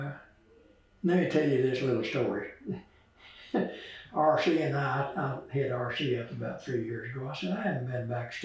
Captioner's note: laughs